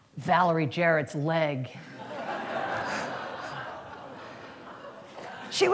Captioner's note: laughter